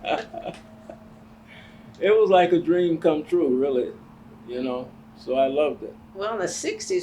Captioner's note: laughs